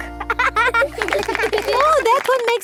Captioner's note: laughing